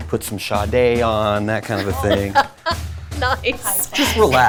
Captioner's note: laughs